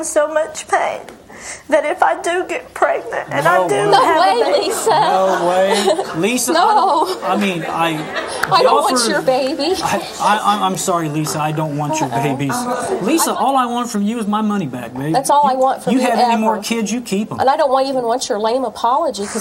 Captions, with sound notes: so much pain, that if I do get pregnant and I do have a baby- No way, Lisa! No way. Lisa, I mean, I- No. (audience laughing) I don't want your baby. I'm sorry, Lisa. I don't want your babies. Lisa, all I want from you is my money back, babe. That's all I want from you ever. You have any more kids you can keep 'em. And I don't even want your lame apology because